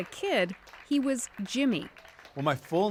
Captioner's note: applause